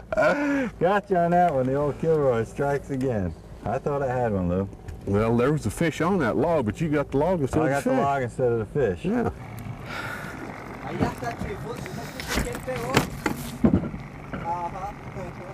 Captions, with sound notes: got you on that one the old kilroy strikes again I thought I had one Lou. Well there was a fish on that log, but you got the log instead of fish! I got the log instead of the fish. [Heavy Breathing form catching a tarpon] [Snap!]